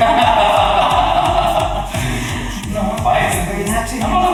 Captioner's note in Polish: śmiech